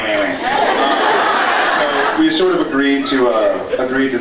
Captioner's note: laughs